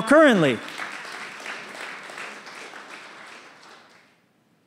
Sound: applause

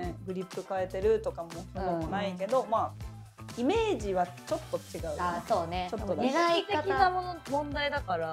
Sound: none

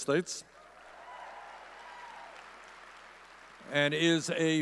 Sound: audience cheering

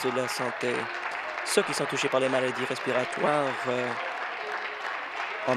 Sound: applause

